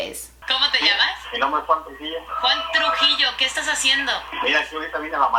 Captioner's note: plays Spanglish radio conversation